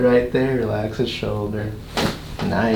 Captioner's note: cracking noise